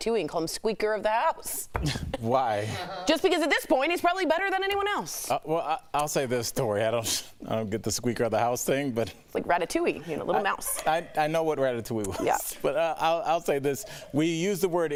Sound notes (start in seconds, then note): 10.4 laughter